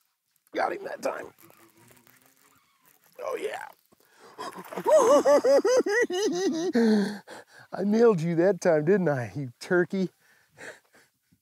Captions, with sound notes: Got him that time. Oh, yeah. [hooting, laughing] I nailed you that time, didn't I? You turkey.